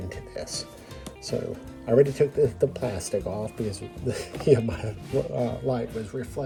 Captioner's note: laughing